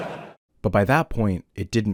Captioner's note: laughter